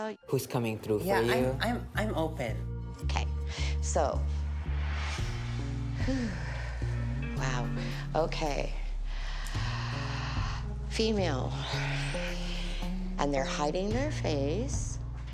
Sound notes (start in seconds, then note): 5.3 exhales